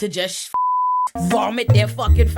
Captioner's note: beep